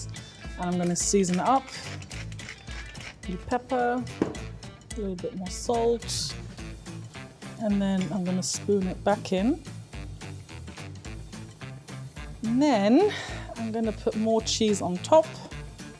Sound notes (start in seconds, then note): 2.0 grinder rattling; 4.1 grinder thuds